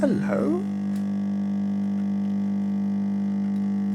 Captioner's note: machine whirs